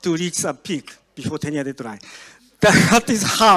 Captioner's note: audience laughs